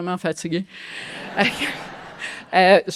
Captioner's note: laughter